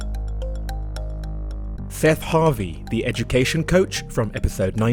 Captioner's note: voiceover